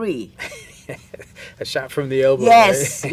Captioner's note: chuckles